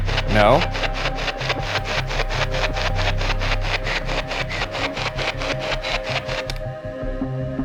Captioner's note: static buzzing; tense music